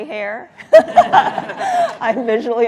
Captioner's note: laughter